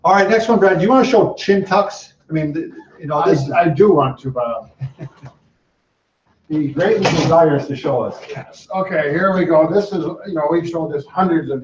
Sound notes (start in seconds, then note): 4.2 chuckles